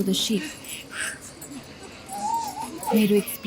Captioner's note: iron chains clanking